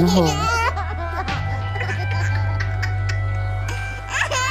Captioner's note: children laughing